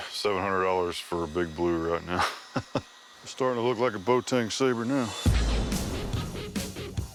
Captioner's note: chuckles